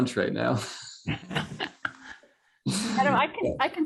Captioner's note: laughter